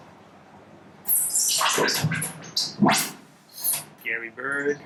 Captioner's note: synthesized bird noises